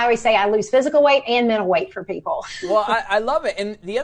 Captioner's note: laughs